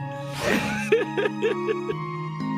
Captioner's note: laughs